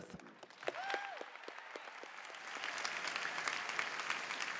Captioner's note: applause